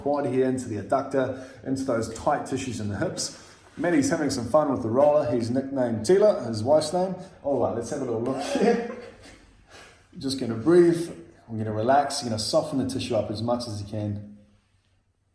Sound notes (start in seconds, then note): 8.3 both chuckle